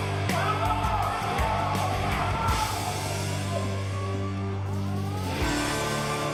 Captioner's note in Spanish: Griterío